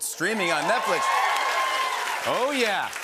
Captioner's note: cheers and applause